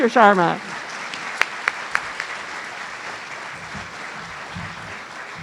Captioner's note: audience applauding